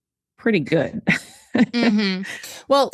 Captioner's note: laughs